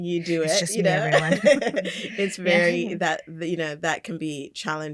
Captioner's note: laughter